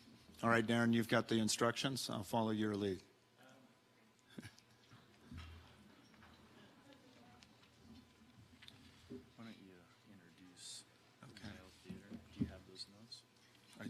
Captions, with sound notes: All right, Darren, you've got the instructions. I'll follow your lead. - Why don't you introduce. (speaking off mic) Do you have those notes?